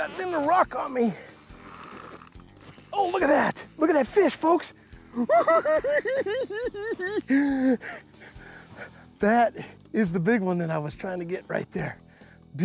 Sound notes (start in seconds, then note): 5.1 giggling